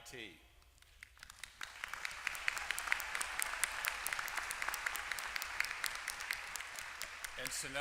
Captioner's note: applause